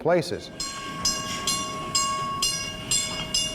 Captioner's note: bell ringing